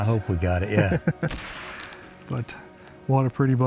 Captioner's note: hunters laugh